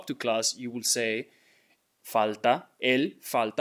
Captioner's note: speaking in Spanish